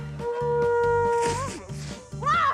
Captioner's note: blows note; splutters